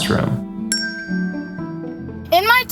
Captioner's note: chimes